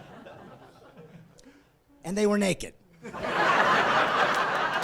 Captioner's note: laughing